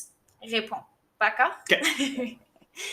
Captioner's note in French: rires